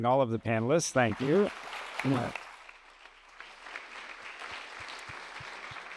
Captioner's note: applause